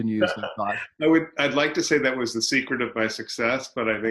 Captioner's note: laughs